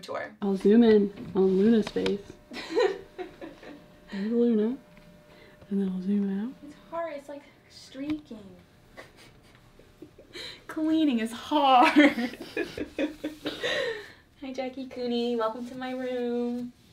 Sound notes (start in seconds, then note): 2.5 laughs; 11.8 both laugh